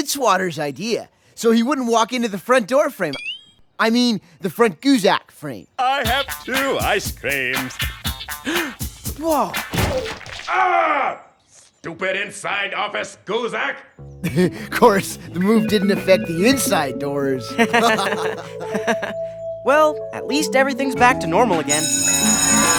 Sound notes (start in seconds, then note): 8.4 gasps; 9.7 thump; 17.4 laughing; 20.6 school bell rings